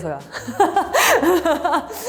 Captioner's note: laughs